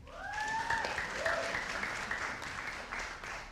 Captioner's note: audience applauding